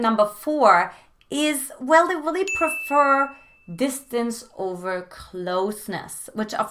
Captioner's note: beep